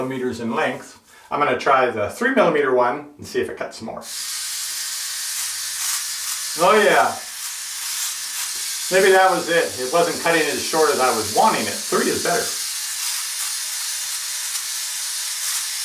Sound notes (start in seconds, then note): 4.2 buzzing